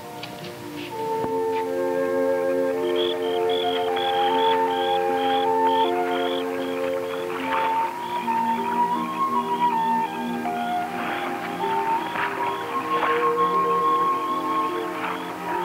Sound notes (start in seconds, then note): 2.9 frogs chirping; 7.5 waves gently lapping